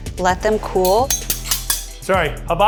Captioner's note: utensils clinking